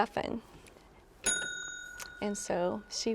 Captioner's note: bell dings